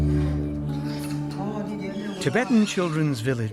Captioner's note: people speak foreign language